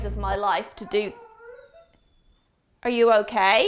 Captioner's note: dog whining